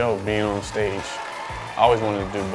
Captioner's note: audience cheering